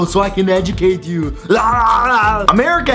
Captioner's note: Arnold Schwarzenegger yell